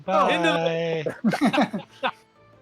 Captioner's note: laughter